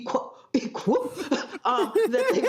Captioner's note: laughter